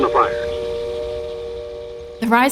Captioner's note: train whistle